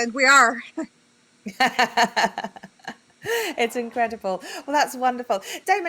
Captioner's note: laughs